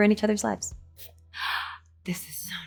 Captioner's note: Anne gasping